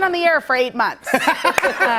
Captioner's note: laughter